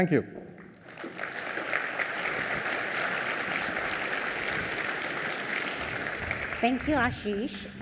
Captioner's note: applause